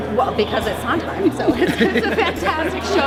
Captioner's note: laughing